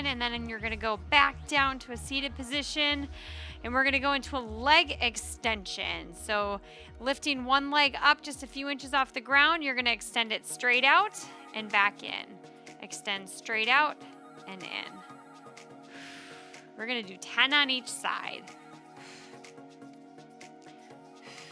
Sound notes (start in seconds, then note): 15.9 exhaling deeply; 19.1 upbeat lively music